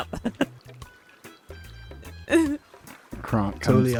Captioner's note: laughter